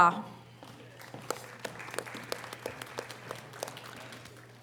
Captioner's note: audience applause